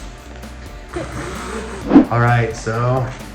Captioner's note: both laughing